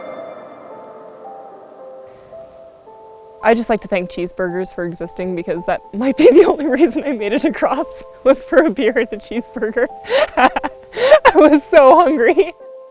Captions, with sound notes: (light piano music) I'd just like to thank cheeseburgers for existing because that might be the only reason I made it across (laughing) was for a beer and a cheeseburger. I was so hungry.